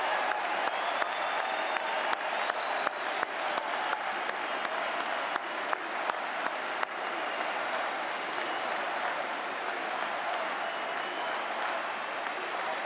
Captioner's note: cheering and Applause